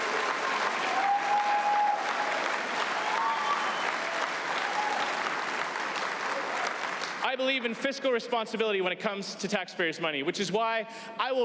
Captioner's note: applause